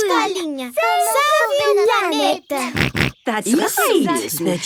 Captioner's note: snorts